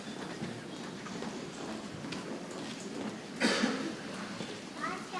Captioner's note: people chattering softly